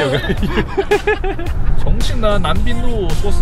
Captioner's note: laughter